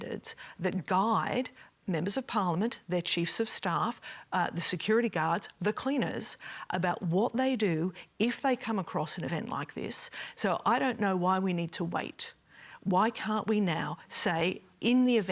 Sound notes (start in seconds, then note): none